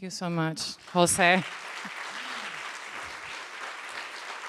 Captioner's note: applause